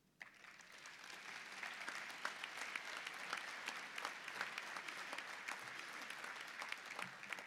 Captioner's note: applause